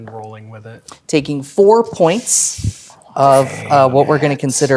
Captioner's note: inhales